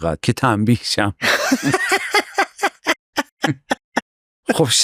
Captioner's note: laughs